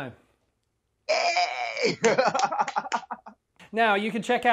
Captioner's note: laughs